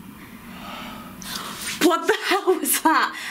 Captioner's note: loud breathing